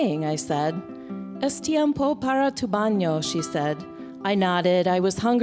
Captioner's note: non-english speech